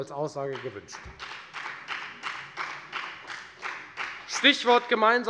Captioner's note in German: Beifall bei der FDP